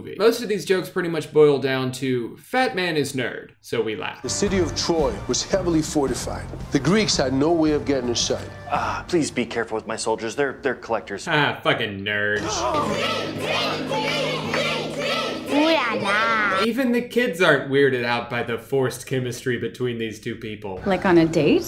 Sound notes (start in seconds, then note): 12.4 gasps while kids chant something unintelligible